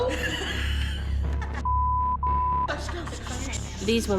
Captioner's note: laughs